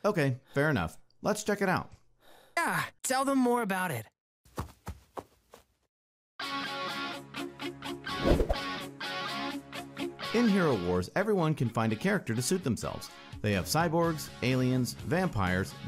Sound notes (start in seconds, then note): 0.2 voiceover; 4.5 quick footsteps leaving; 10.3 voiceover